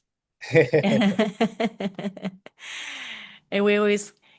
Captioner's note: laughing